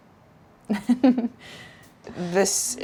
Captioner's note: Claire giggling